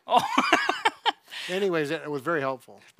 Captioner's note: laughs